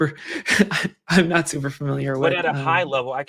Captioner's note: chuckles